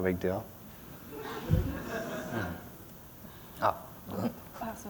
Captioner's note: laughter